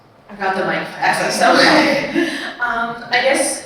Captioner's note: audience laughing